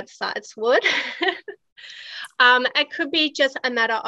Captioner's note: chuckles